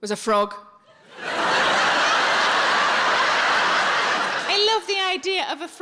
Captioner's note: audience laughing